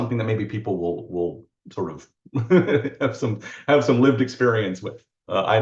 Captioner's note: laughs